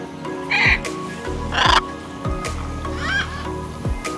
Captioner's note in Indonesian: Suara Burung